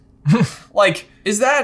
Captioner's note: chuckles